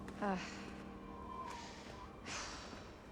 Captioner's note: sighing